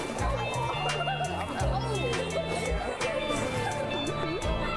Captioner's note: overlapping chatter